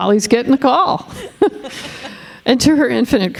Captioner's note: all chuckling